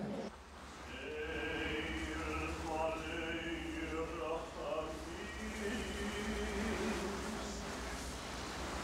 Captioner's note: man chanting in Hebrew